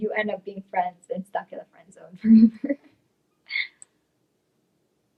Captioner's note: laughs